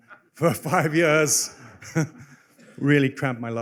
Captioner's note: laughter